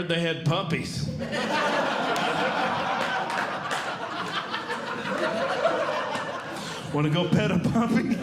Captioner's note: audience Laughing